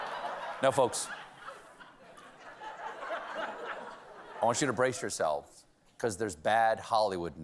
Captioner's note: laughter